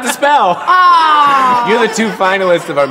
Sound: laughter

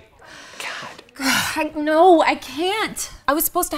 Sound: sighs

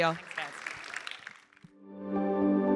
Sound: crowd applauding; gentle music

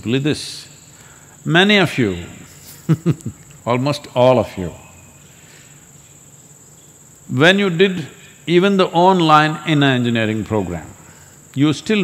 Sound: laughs

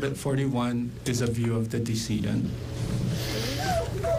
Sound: crying in background

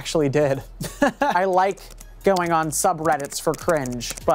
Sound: chuckles

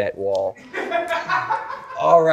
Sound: crew member laughing

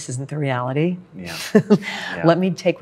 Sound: laughs

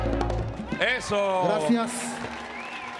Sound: MC speaking in Spanish; audience clapping

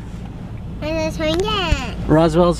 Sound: baby talk

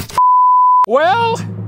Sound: beep

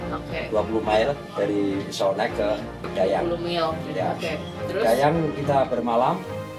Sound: speaking Indonesian

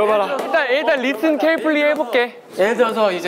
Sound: sassy

